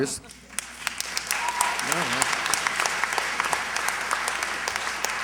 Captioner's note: applause